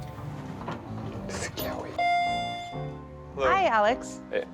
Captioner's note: elevator chiming